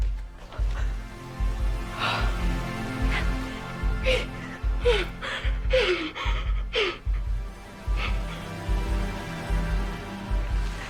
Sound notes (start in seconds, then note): 3.8 breathes rapidly